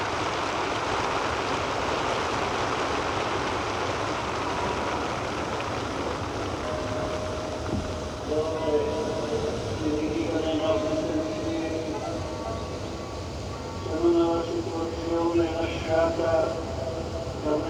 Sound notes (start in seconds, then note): 6.6 bell rings